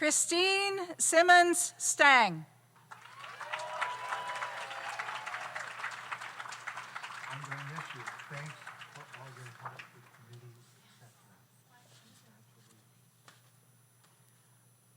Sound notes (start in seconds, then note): 2.8 audience applauds; 2.9 audience cheers